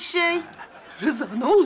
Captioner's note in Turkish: Gülme efekti